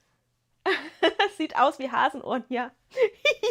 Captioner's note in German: gelächter